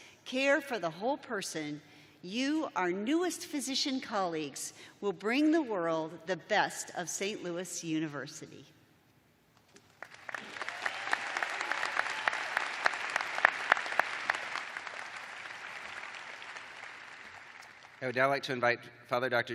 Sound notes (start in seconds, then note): 7.8 cheers and applause